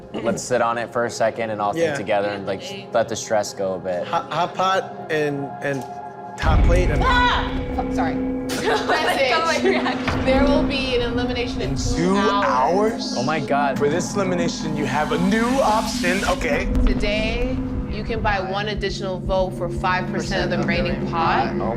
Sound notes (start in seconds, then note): 7.1 girl exclaims; 8.5 girl laughs